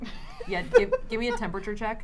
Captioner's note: laughs